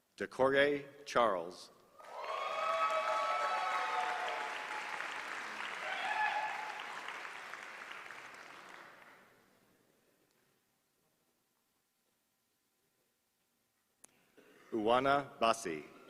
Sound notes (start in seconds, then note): 2.0 applause